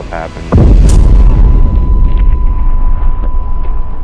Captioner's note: bomb exploding